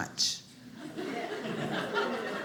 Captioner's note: audience laughing